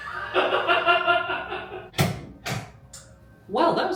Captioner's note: laughing